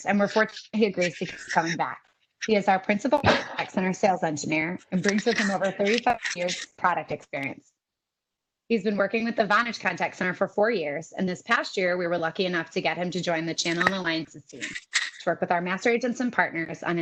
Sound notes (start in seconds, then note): 0.0 audio is choppy